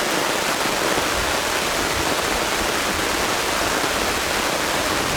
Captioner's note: rain